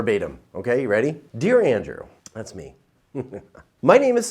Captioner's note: chuckles